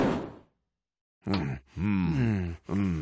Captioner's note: moaning